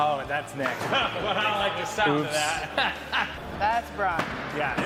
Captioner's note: laughing